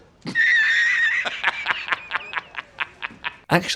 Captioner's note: laughing